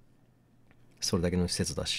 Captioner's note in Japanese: none